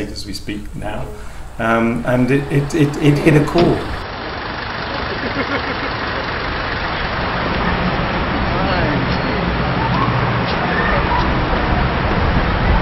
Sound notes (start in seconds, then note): 4.4 engine rumbling; 9.7 traffic humming